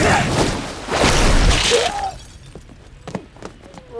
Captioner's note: grunting